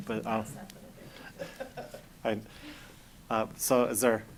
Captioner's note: laughing